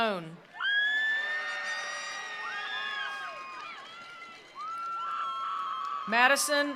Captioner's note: attendees cheering; attendees applauding